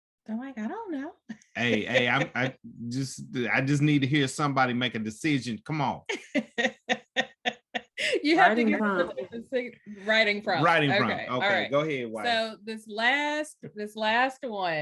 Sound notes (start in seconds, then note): 1.5 chuckles; 6.1 laughs